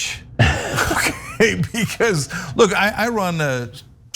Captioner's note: laugh